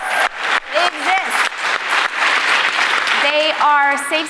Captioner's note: applause